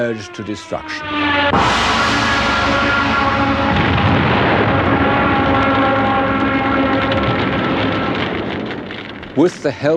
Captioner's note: Stuka sirens, bomb explosions